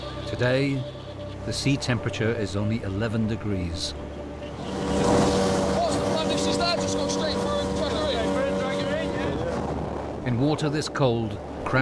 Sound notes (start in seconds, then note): 3.9 boat droning; 9.4 intense music; 9.4 wind whooshing